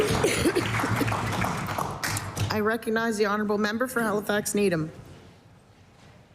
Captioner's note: applause